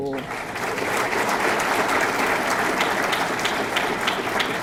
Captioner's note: audience clapping